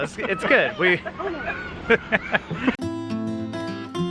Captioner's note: laughing; lighthearted music